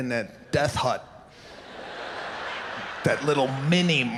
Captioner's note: audience laughs